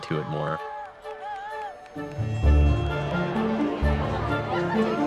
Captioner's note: cheers and applause